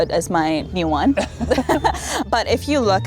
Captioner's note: both chuckles